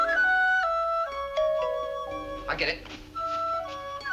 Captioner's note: doorbell ringing